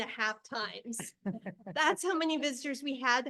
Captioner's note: board member laughs